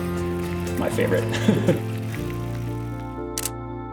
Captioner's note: laughter